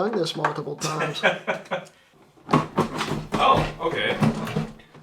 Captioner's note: laughs